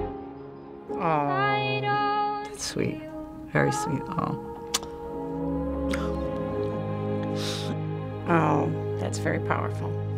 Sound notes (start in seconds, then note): 7.3 sniffles